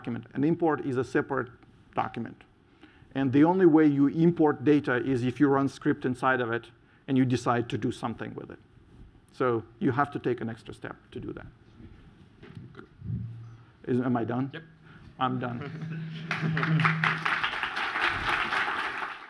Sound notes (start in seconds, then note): 16.2 applause